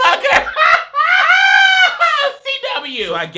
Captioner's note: laughs